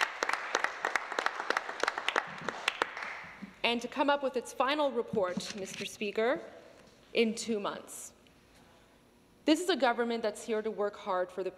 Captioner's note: some Applause